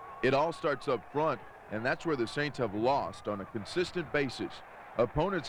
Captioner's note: screaming